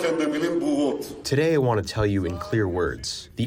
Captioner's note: through translator